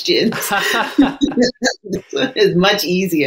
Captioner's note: laugh